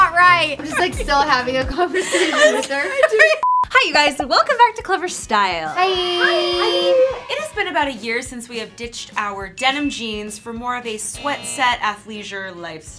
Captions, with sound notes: I'm just like still having a conversation with her. - (laughs) I'm sorry. - Hi, you guys. So, welcome back to Clevver style. - Hi! - Hi! It has been about a year since we have ditched our denim jeans for more of a sweat set, athleisure lifestyle.